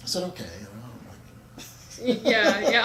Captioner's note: laughs